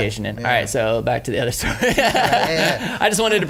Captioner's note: laughs